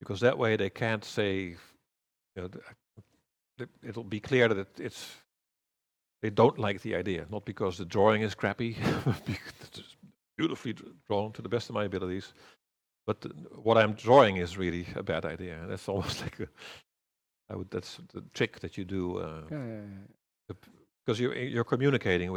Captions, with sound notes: That way, it'll be clear that they don't like the idea, not because the drawing is crappy [laughs] but because it's beautifully drawn to the best of my abilities, but what I'm drawing is really about idea. That's the trick that you do because you're communicating,